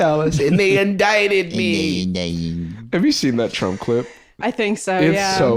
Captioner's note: whiny